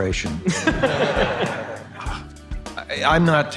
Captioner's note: audience laughing